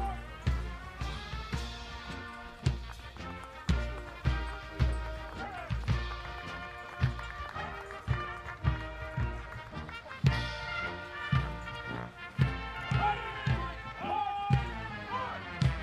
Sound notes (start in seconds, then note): 0.3 audience applauding; 10.3 soldiers shouting commands